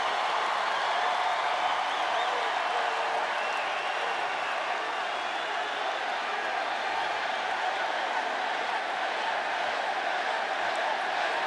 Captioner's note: applause